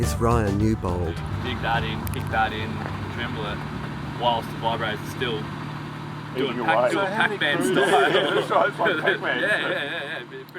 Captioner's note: laughs